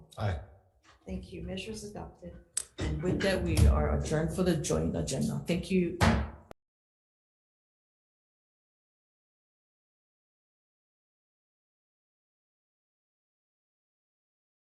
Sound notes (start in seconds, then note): 6.0 gavel bangs